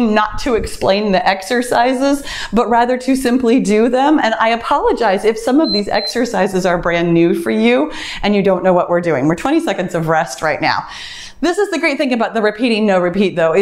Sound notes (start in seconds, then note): 5.6 timer beeps